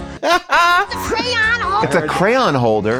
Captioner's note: laughing